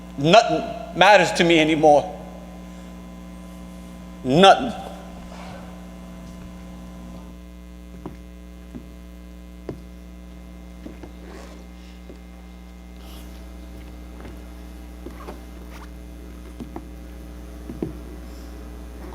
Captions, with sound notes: Nothin' matters to me anymore. Nothin'. [footsteps plodding] [boots squeaking]